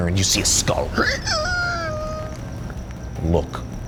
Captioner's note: creaking